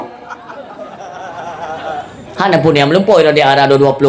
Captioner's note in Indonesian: tertawa